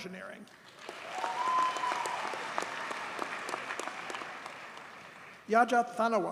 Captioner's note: audience cheers and applauds